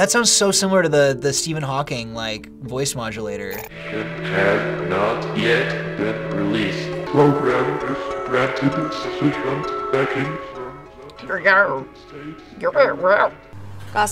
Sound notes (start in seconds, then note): 3.9 robotic voice; 7.2 voice warps; 11.3 mimics warped voice